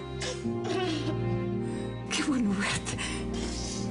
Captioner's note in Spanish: Consuelo exhala